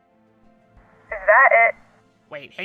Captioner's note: phone